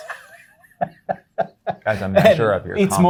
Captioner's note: guy laughing